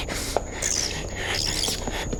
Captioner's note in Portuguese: Chittering continua